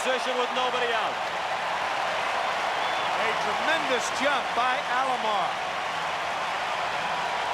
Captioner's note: cheering and Applause